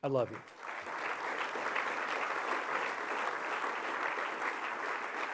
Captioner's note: applause